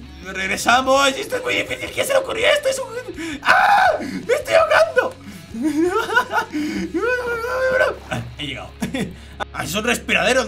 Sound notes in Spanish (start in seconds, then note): 3.3 Grita